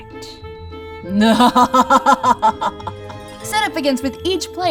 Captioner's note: wicked laughter